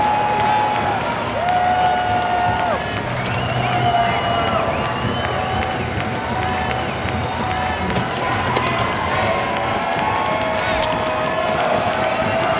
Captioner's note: crowd